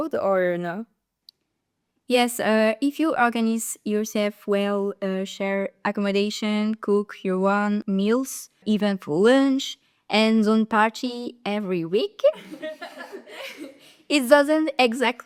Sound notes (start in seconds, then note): 12.3 general laughter